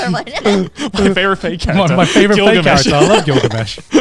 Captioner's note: laughs